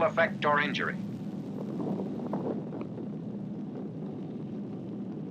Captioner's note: explosion thundering